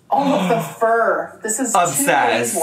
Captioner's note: gasps